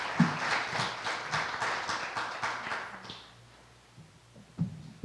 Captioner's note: applause